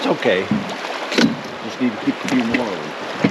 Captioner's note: net rattling; water flowing